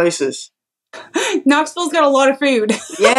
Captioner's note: laugh